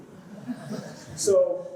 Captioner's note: laughter